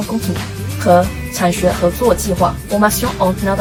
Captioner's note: in french